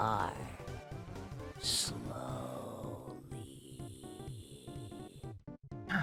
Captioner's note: at A Whisper